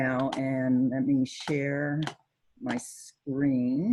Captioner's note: clicking computer